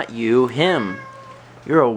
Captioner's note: Sagan meows